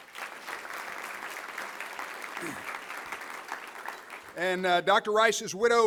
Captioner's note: applause